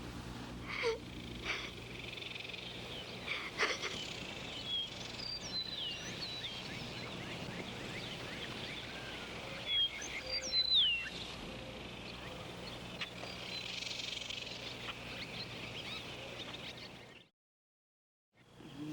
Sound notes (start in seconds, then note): 1.5 birds chirping